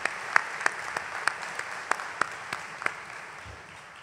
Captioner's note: applause